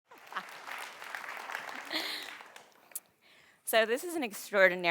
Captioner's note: audience applause